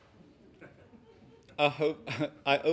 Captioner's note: laughing